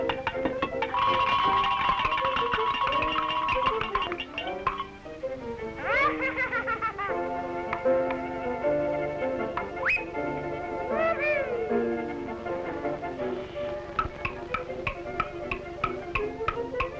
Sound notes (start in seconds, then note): 5.8 laughing; 10.9 Felix exclaims